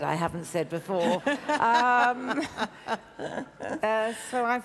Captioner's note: laughs